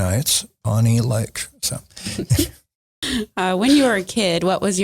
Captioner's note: laughing